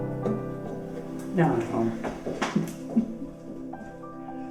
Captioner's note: chuckles